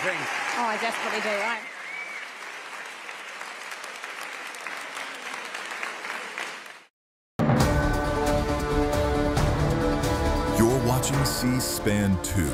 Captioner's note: applause; cheering; applause